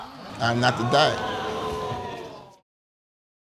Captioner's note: audience exclaims